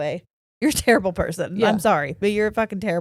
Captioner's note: chuckles